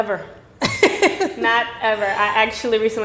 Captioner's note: laughing